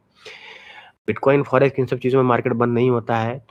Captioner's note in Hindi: नाक से की जाने वाली आवाज़